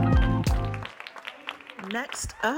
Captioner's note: audience cheering and applauding